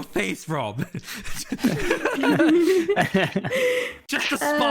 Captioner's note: all giggling